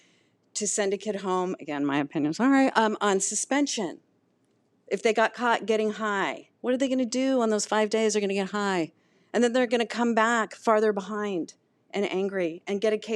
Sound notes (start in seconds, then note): none